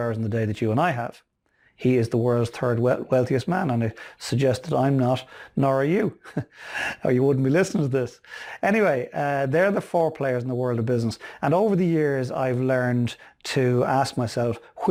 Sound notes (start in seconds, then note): 6.6 laughing